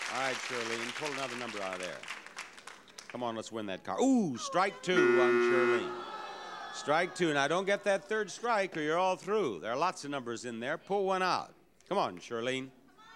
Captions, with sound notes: All right Shirlene, pull another number out of there. Come on. Let's win that car. (Buzzer sounds) Ooh, strike two, strike two. And now don't get that third strike or you're all through. There are lots of numbers in there. Pull one out. Come on, Shirlene.